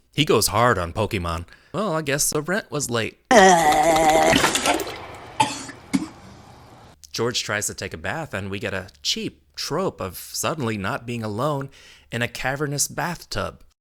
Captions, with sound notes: He goes hard on Pokemon. Well, I guess the rent was late. (Coughing) tries to take a bath and we get a cheap trope of suddenly not being alone in a cavernous bathtub.